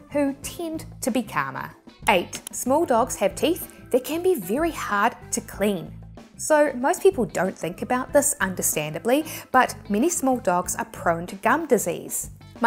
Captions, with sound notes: who tend to be calmer. 8, (graphics clicking) small dogs have teeth, they can be very hard to clean. So, most people don't think about this understandably, but many small dogs are prone to gum disease.